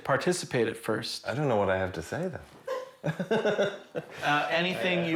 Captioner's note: laughs